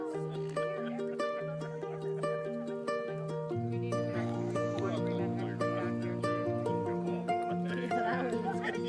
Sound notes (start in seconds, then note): 2.7 people chattering in background